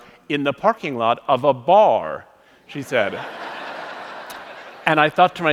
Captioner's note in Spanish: Risas